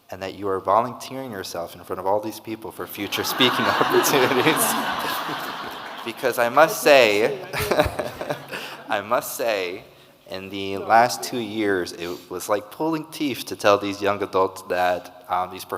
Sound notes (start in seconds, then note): 4.6 audience laughing; 8.1 laughs